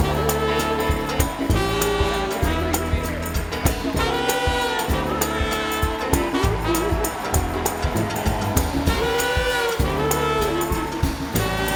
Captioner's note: applause